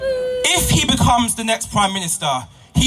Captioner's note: boos from crowd